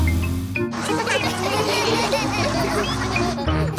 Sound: laughter

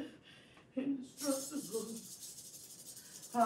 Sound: shakes bells

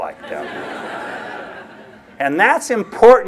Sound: laughter

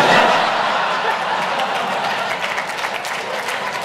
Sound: audience laughs and applauses

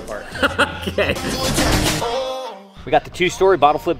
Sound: laughs

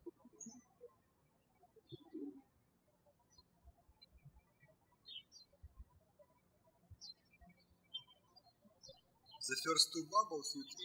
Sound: birds chirping

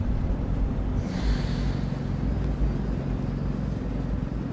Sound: heightened sound of inhalation; a soft wind

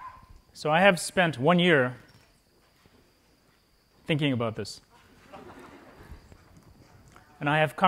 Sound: laughter

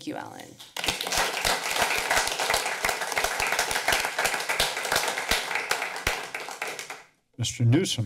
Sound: applause

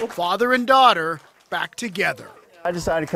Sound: applause

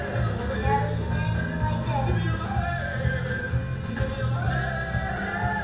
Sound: voiceover

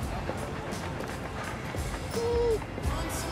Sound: whines

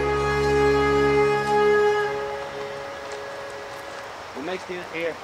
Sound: water rushing

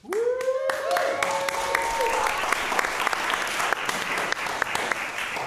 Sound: cheering, applause; applause

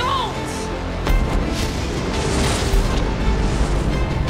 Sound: zapping

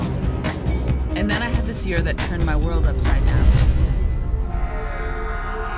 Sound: sirens

